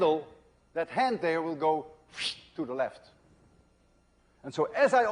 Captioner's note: wssshhht